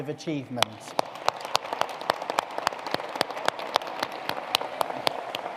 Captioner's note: all applauding